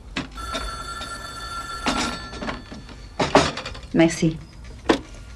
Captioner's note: phone rings